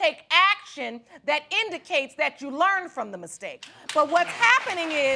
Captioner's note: applause